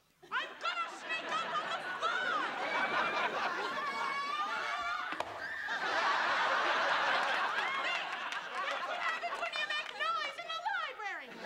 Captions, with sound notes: I'm gonna sneak up on the fly! [all yelling] There. That's what happens when you make noise in a library.